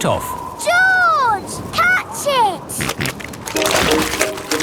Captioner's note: snorting